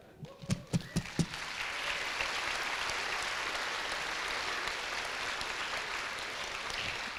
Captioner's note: applause